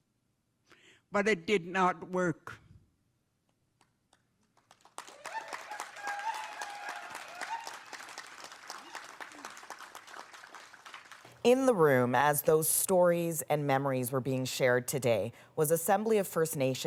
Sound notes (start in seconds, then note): 6.9 applause